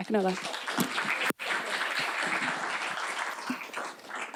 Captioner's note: clapping